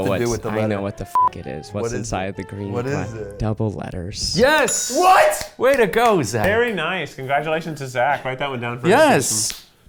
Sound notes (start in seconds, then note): 4.9 call bell pinging